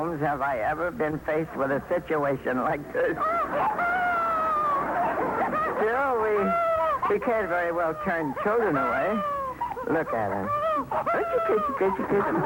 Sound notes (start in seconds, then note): 4.7 baby crying